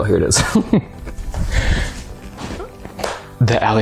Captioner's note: laughing